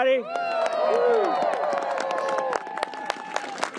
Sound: applause

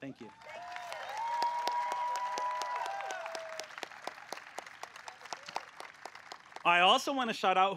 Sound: applause

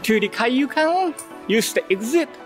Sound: none

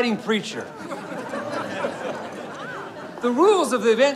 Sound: crowd laughing

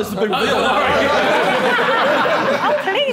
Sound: Sidemen laughing

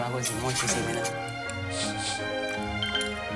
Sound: sniff sniff

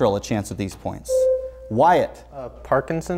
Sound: buzzer sounds

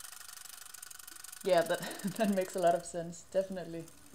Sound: laughs

